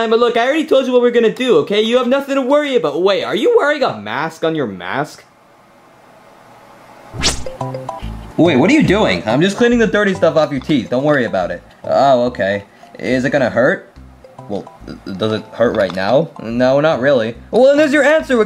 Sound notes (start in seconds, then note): 6.2 playful music; 7.1 air quivers